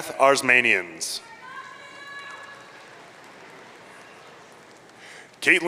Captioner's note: audience cheering